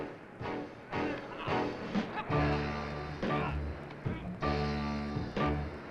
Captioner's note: Tom grunting; dramatic music continues